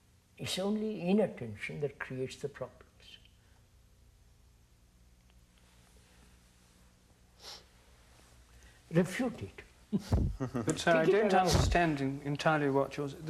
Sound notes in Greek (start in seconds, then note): 10.3 Γέλια